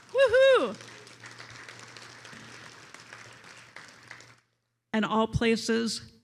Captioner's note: attendees applauding